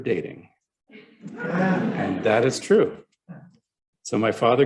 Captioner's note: laughter